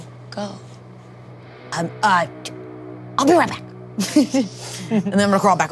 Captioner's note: players chuckling